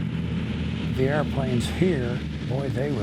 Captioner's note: plane engine roaring